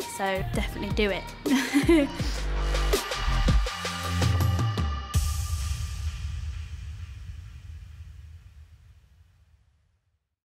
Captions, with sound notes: So definitely do it. [LAUGHS]